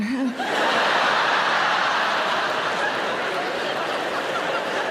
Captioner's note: audience laughing